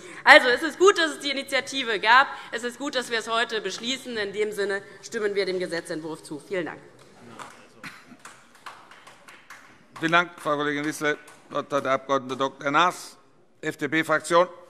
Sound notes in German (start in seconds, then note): 7.2 Beifall DIE LINKE